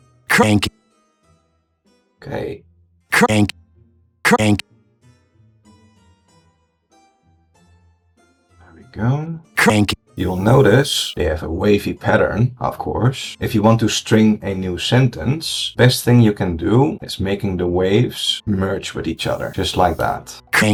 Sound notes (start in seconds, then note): 8.8 whispers